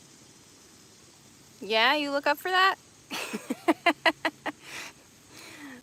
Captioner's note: laughing